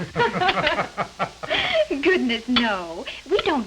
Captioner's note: laughter